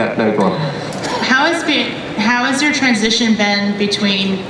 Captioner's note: voiceover